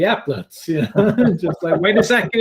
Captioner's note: laughter